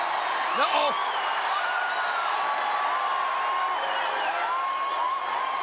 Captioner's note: crowd cheering